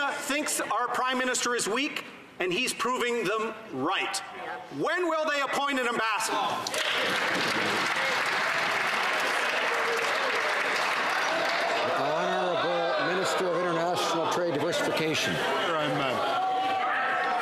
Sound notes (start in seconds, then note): 13.1 some Applause